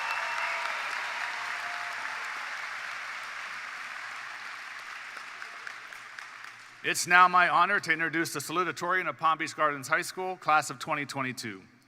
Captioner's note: applause